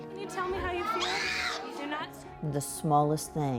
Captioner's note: boy Screams